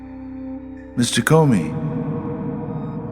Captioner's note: deep cavernous voice